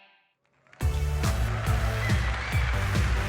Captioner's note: applause